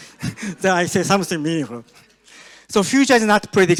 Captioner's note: audience laughs